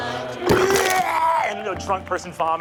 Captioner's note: imitates barfing